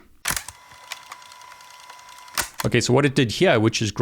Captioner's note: fast forward whirring